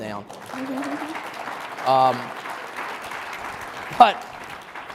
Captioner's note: audience applauding